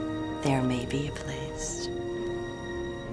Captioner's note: none